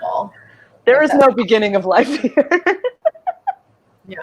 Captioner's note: laughs